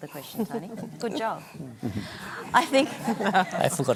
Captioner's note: laughter